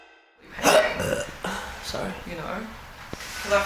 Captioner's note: burps